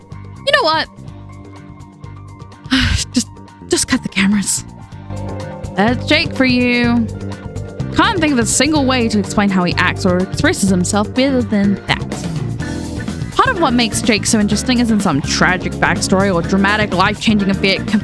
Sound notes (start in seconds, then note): 2.7 sigh